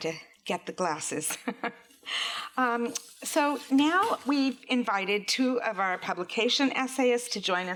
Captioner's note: laughs